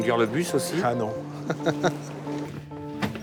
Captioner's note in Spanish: riendo